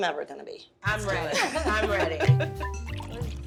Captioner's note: laughter